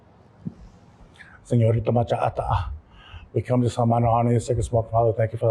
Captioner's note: non-english speech